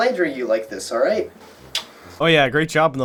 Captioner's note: smooch